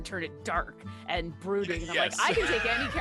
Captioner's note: chuckling